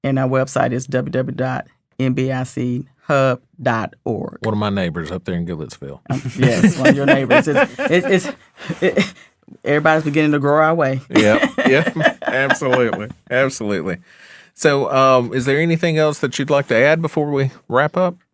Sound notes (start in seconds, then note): 6.1 laughing; 8.8 chuckles; 11.1 laughing